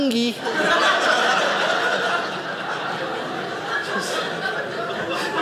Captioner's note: audience laughing